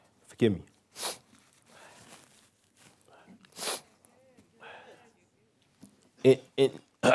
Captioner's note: pause; pause